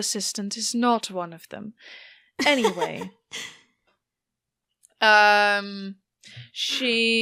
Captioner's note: laughs